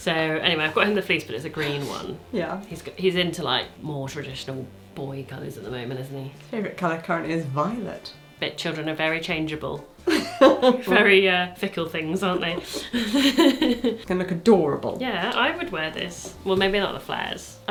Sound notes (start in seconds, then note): 12.6 laughing